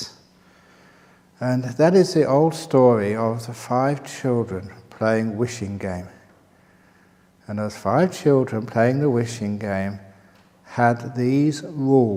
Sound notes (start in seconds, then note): none